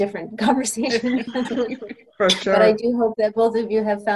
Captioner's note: laughter